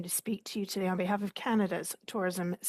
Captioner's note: speaking French